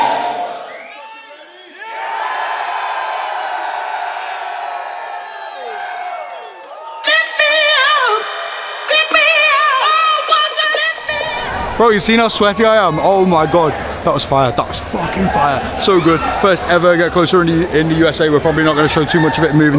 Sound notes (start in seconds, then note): 2.0 crowd cheers; 7.0 upbeat electronic music